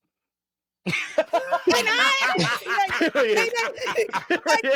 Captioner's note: laughing